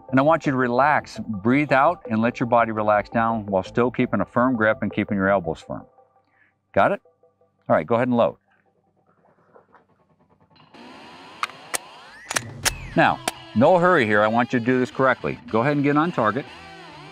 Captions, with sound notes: And I want you to relax. Breathe out and let your body relax down, while still keeping a firm grip and keeping your elbows firm. Got it? Alright, go ahead and load. (upbeat rock music) (gun clicks) Now, no hurry here. I want you to do this correctly. Go ahead and get on target.